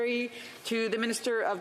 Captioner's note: speaking French